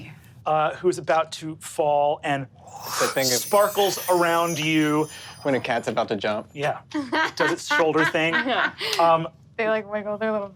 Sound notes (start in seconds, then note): 2.6 imitates air whooshing; 7.0 laughs